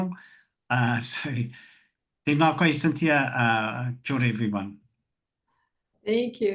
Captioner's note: foreign language 00:04:37; foreign language 00:04:38